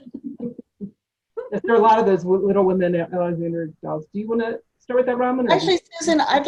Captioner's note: laughs